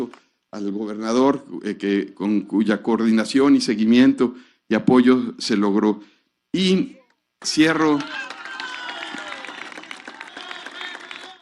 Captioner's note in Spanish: aplausos